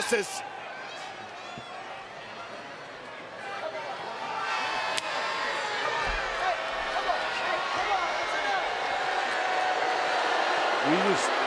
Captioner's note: applause